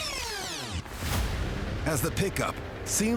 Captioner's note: tape rewinding